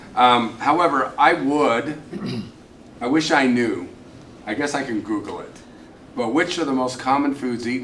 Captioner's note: clears throat